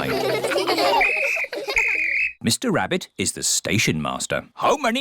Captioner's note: blows whistle